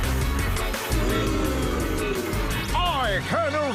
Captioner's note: audience boos